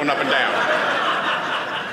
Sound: audience laughing

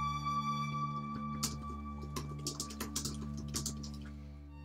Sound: typing

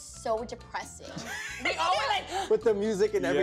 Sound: laughs

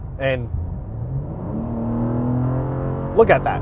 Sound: engine revving

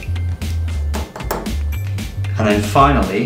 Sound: tapping on glass

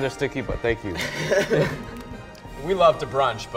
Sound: laughs

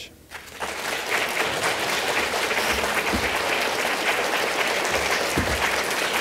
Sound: applause

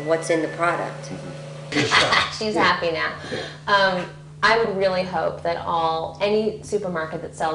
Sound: laughs

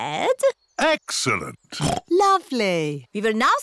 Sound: oinks

